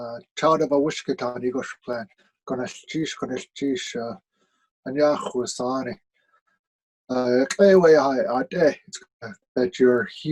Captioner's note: speaking Tlingit